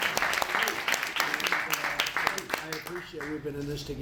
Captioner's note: applause